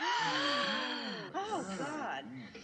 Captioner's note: gasp